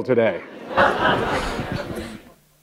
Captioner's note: laughter